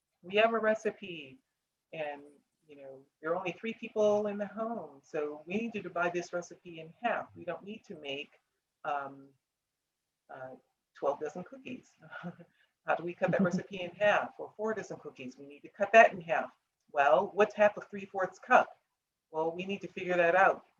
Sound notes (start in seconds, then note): 13.2 laughs